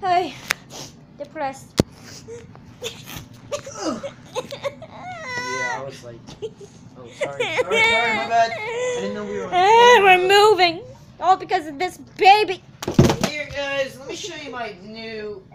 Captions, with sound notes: I'm depressed (sobbing) We're moving All because of this baby Here guys let me show you my new